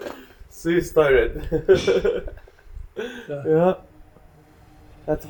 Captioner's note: laughs